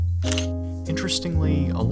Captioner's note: camera shutter